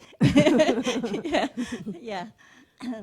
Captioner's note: laugh